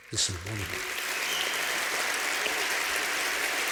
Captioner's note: applause